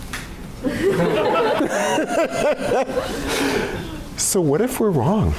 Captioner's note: laughter